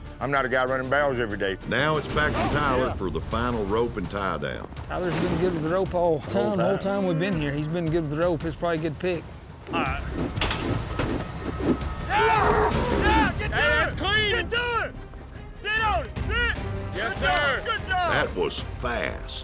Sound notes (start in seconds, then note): 10.1 twirling rope